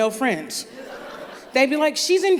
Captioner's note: laughter